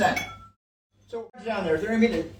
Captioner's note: glassware clinks